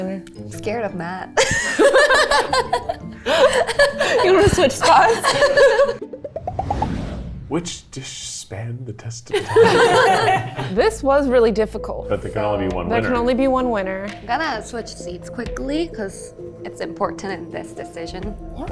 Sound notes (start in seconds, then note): 1.4 both laugh; 9.3 all laugh